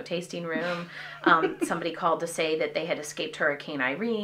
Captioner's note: laughter